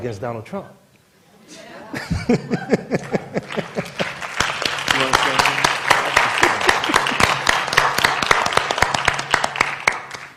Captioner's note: laughter; applause